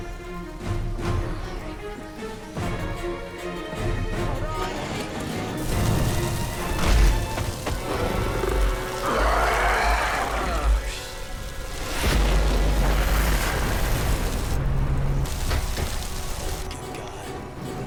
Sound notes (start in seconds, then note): 0.3 dramatic music; 5.8 creature bellows; 5.8 fire sizzles; 11.8 explosion booms